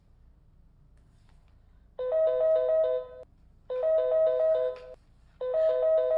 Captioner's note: phone rings